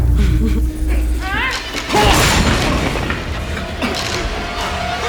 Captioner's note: grunting